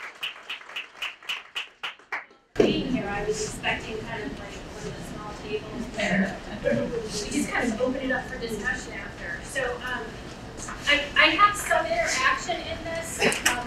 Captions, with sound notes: - Thank you all for being here, I was expecting kind of like one of the small tables. (laughing) Please guys, open it up for discussion after. So I have some interaction in this.